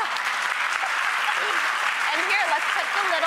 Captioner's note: audience claps